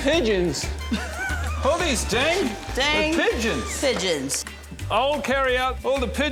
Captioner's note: laughs